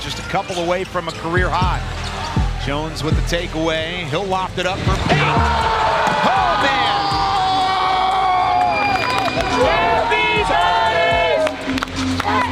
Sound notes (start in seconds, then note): 5.4 fans cheering; 7.1 fan screaming; 11.5 clapping